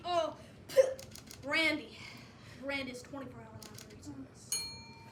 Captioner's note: spit